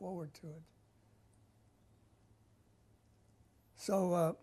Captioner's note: pauses for 3 seconds